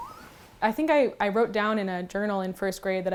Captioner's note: raccoon squeaking